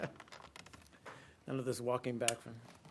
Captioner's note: laughter